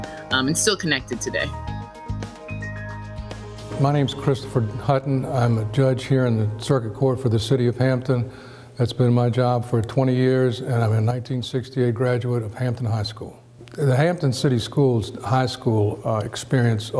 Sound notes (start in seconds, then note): none